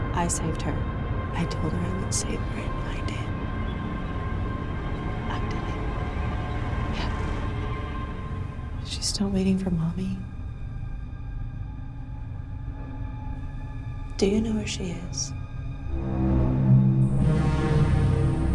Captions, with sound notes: I saved her. I told her I would save her, and I did. [quietly] I did. Yeah. [in normal voice] Is she still waiting for mommy? Do you know where she is?